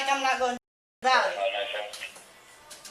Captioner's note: radio chatter